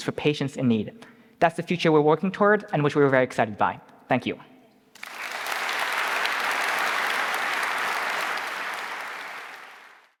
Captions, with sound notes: for patients in need. That's the future we're working toward and which we're very excited by. Thank you. (audience clapping)